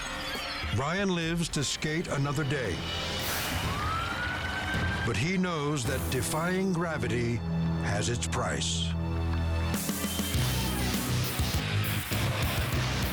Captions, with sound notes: Brian lives to skate another day, (siren wailing) but he knows that defying gravity has its price. (heavy metal music)